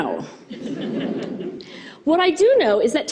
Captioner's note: audience laughing